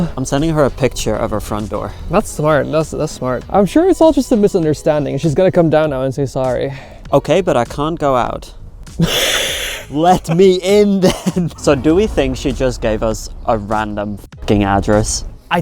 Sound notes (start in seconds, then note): 9.0 laughing